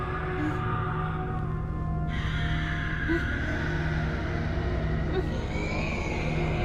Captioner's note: dragons moaning in agony